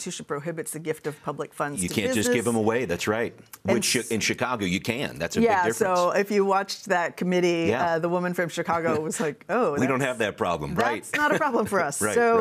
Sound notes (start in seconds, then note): 10.9 chuckles